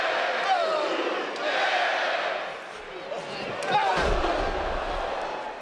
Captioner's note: crowd chants "boo/yay"